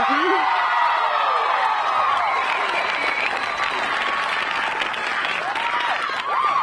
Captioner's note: crowd applauding; crowd cheering